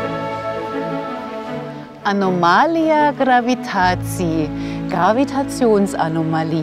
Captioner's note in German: liest polnisch